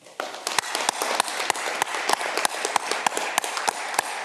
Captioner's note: audience clapping